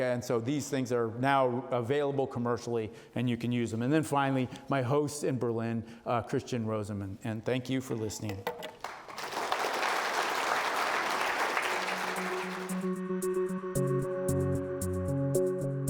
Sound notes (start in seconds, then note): 8.8 audience applauding; 12.1 uptempo electronic music